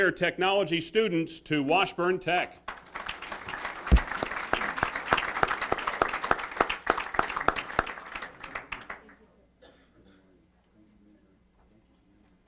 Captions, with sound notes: the next generation of Health Care Technology students to Washburn Tech. >> [Applause].